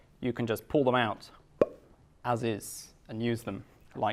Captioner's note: makes popping sound with mouth